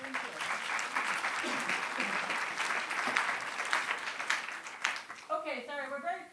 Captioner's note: applause